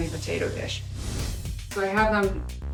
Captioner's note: screen whooshing